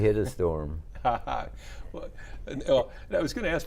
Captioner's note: chuckling